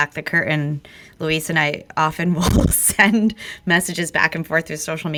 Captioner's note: laughs